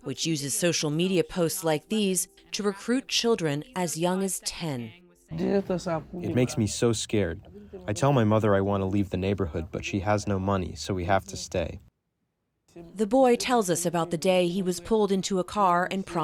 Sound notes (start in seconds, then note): 6.4 through translator